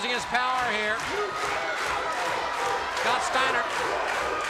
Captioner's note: fans chanting and clapping